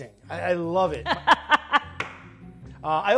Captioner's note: laughs